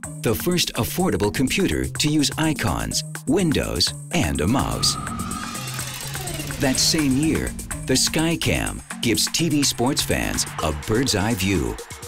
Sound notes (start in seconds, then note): 4.9 whirring; 5.4 ticking